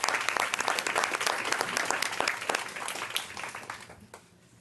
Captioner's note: applause